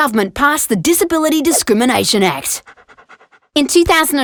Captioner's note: dog panting